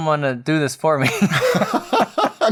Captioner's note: laughter